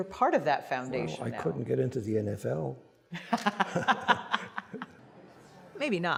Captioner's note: laughter